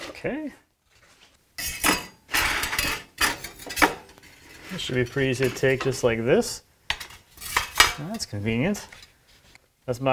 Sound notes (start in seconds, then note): 1.6 metal clanking; 7.4 metal clanking